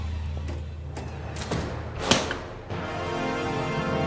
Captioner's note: dramatic music; door thudding